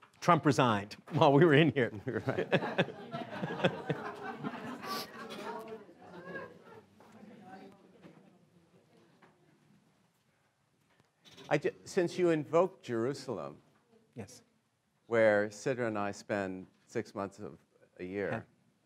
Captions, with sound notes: Trump resigned while we were in here. (laughing) Since you invoked Jerusalem, where Sidra and I spend six months of a year,